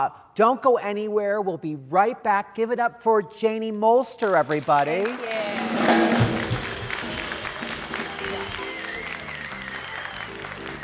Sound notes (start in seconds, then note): 4.2 audience applauding; 8.3 calm music